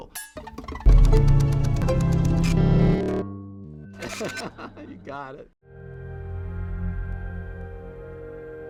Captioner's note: laughs